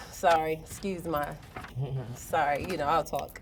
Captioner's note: chuckles